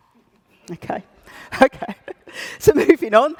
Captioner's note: laughter